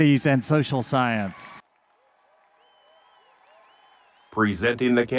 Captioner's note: audience cheering